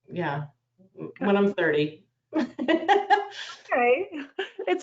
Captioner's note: laughs